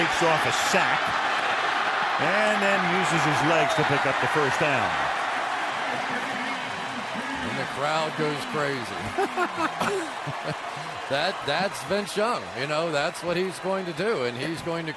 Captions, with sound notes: He shakes off a sack and then uses his legs to pick up the first down. [cheering] The crowd goes crazy. [chuckles] That-- that's Vince Young. You know, that's what he's going to do.